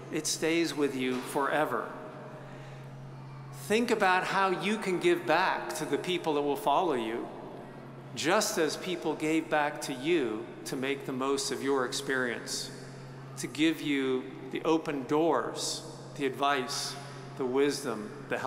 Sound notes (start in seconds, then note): none